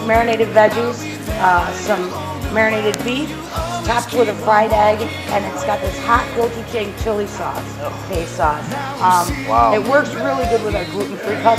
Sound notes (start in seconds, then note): 6.1 foreign words